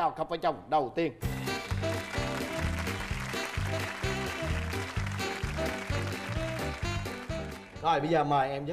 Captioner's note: applause